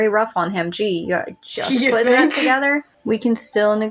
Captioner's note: scoff